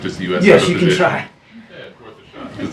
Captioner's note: laughs